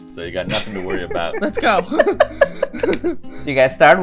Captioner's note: laughter